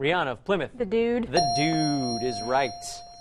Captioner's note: ding